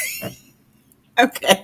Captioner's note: laughing